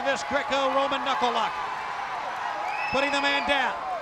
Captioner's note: crowd cheering